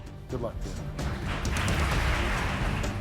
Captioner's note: applauding; simmering, dramatic music